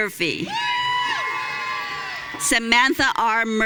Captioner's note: audience cheering